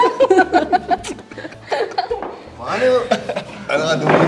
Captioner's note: laughs